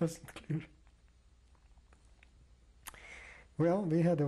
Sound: pauses for 3 seconds

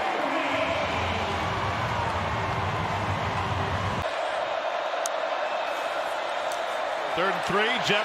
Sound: crowd

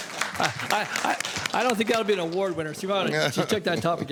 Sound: applause

